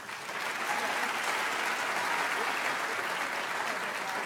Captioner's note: audience applauds